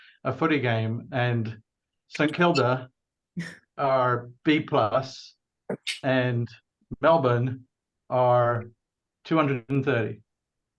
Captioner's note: laughs